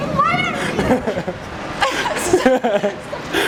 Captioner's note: laughing